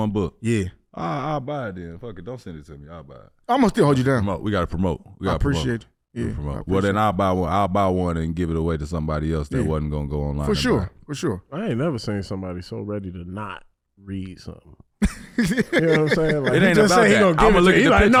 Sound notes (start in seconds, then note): 15.0 HaHa laughs